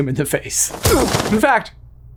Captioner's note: exclaims in pain